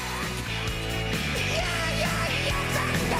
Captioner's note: cheers and applause